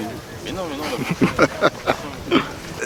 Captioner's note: laugh